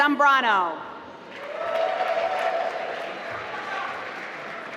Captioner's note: applause